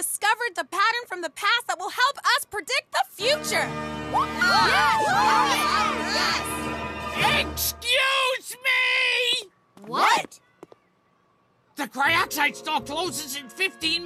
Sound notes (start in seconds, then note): 7.3 cheers